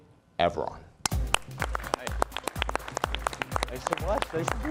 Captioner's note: crowd applauding